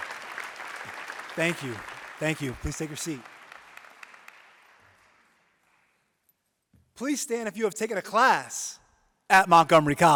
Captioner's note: applause